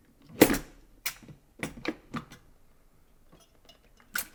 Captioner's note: metal clinking